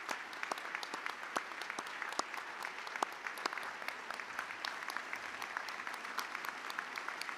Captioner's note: applause